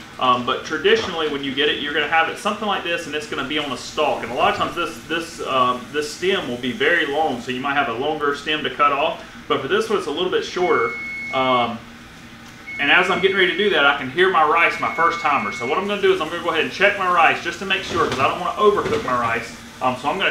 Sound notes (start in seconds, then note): 11.1 timer beeping